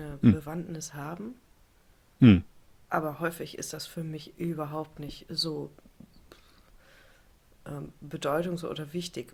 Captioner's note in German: räuspern